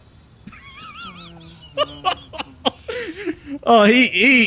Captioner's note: laughs